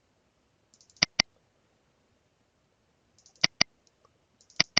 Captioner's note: mouse clicking